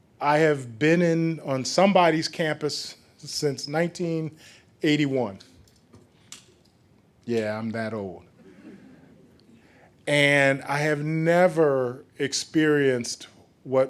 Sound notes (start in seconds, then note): 8.4 chuckling